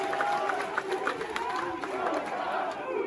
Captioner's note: crowd cheers; crowd chants